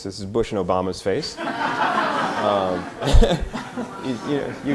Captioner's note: audience laughter